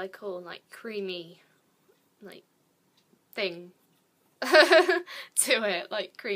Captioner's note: laughs